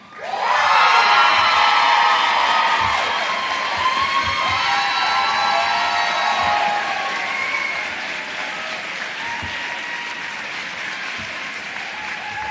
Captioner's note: cheering